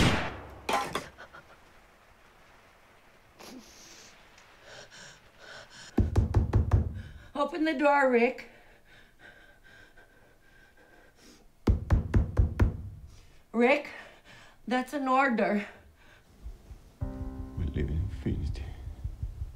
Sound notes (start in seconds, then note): 0.0 gun bangs; 5.9 knocking; 11.6 knocking